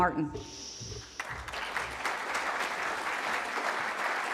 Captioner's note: applause